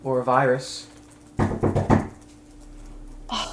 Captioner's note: knocking